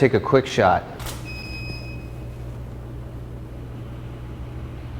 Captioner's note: shutter clicks